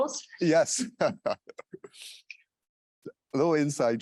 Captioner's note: laughs